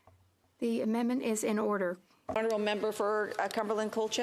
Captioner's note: speaking French